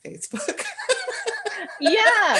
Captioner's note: laughter